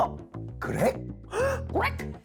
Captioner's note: exasperated tone